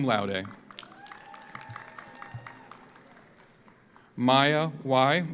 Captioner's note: audience applauds; audience cheers